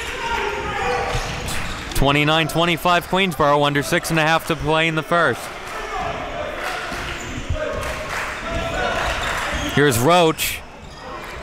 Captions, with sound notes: 29:25 Queensborough under six and a half to play in the first. (applause) Here's Roache.